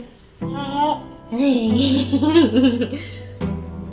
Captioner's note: baby coos